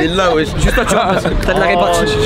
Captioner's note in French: rire